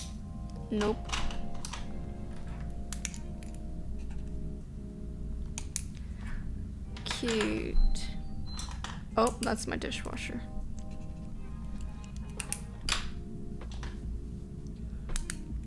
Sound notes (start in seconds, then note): 0.8 pen clicking; 7.6 dishwasher bewping; 11.7 pen clicking